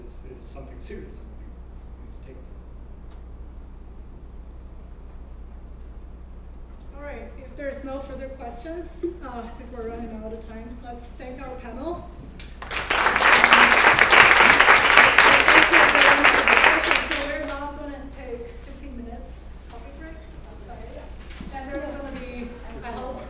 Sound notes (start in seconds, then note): 12.4 applause